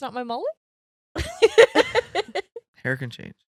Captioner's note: laughing